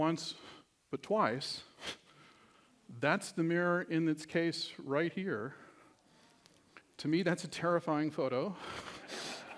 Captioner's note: laughter